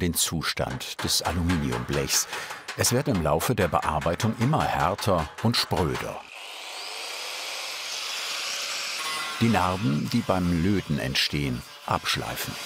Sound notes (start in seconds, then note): 6.4 machine whirring